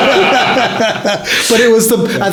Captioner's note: laughing